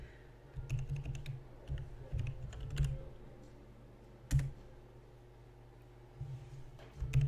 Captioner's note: more typing than clicking